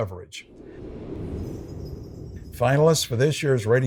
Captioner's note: wind whooshing; bells chiming